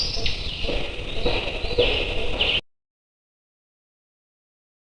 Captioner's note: banging